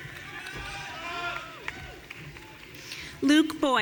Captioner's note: audience cheering